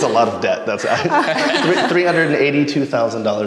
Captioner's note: all laugh